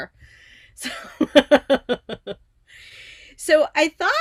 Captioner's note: giggling